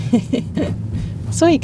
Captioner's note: laughs